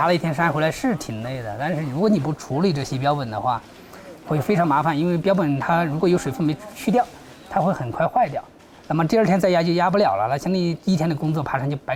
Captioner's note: speaking in foreign language